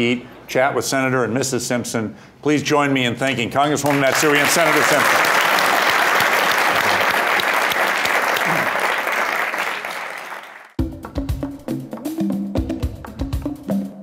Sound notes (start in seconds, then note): 5.5 applause